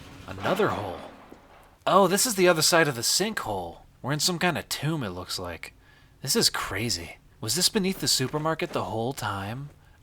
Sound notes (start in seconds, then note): none